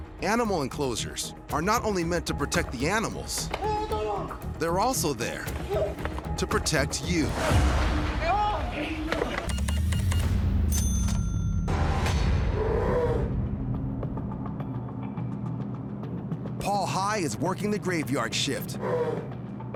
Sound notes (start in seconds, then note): 9.4 beeping; 10.6 cash register dings; 12.4 bear growls; 13.8 tense music plays